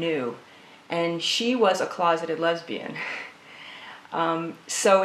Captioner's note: laughs